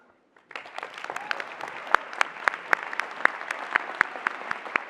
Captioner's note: applause